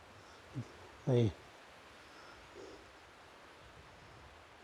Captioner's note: breathing